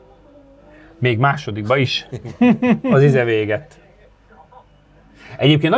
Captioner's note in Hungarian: nevetés